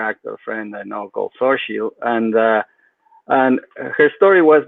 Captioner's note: speaks faintly